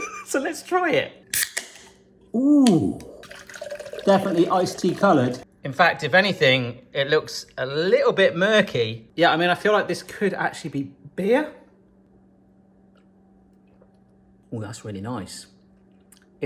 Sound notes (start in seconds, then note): 0.0 laughs; 2.1 can clanking; 3.1 iced tea pouring